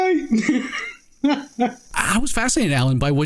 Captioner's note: laughing